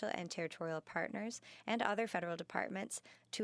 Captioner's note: speaking in French